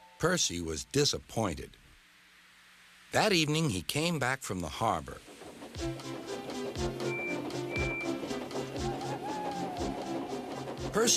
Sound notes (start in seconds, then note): 7.0 whistles; 8.6 owl hoots